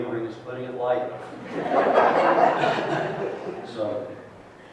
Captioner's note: laughter